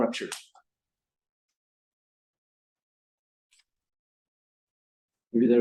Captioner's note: silence